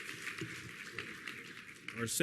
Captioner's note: applause